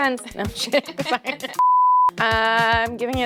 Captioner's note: both laughing